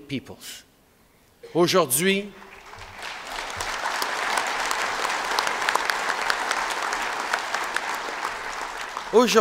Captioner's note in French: Applaudissements